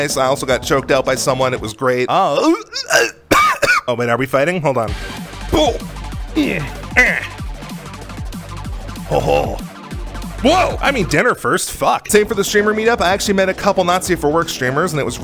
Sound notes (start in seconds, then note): 2.3 choking noises; 5.0 fighting noises